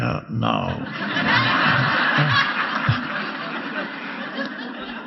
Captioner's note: audience laughing